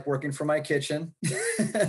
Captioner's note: chuckles